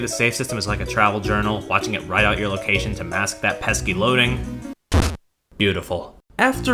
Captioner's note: stamp sound